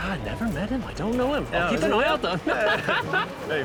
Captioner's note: laughs